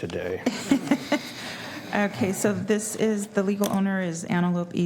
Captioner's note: laughter